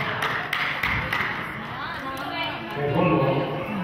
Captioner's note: clapping; players chattering